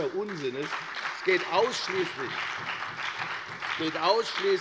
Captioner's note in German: Beifall bei der FDP und der SPD